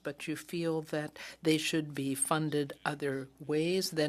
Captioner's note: speaking French